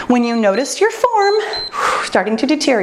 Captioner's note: timer beeps